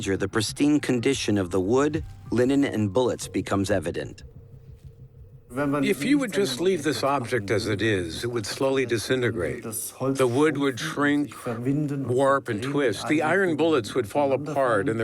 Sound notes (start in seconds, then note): 5.5 in German